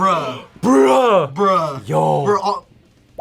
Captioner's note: gasps